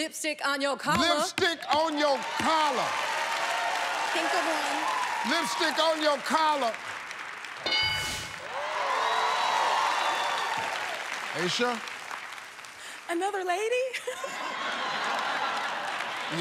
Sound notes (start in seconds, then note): 2.2 cheers and applause; 8.4 cheers and applause; 13.9 laughter